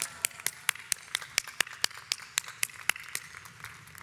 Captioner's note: audience applauds